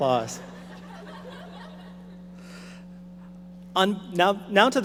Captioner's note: audience laughing